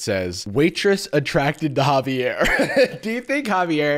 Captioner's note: laughs